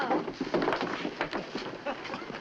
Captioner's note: thump